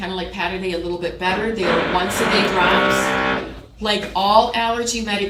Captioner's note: tool motor whirring